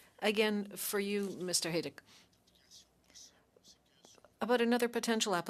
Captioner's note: speaking French